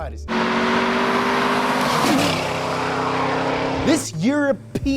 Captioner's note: car engine revving